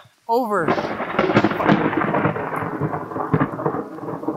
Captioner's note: thunder